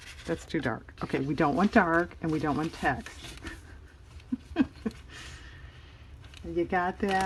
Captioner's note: laughs